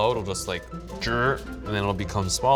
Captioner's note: shrinking noise